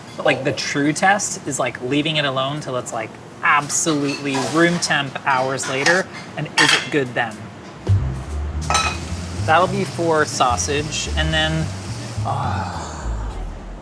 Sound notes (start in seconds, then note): 7.7 soft up-tempo jazzy music; 8.6 pan clangs; 12.2 sighs